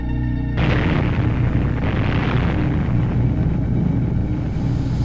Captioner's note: explosion bursting